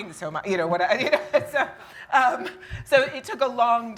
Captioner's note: laughs